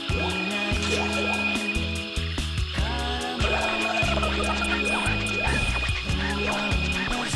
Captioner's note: upbeat goofy music; objects chiming